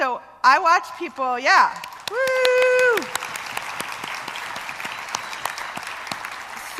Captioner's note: applause